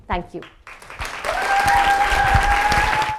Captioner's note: audience claps and cheers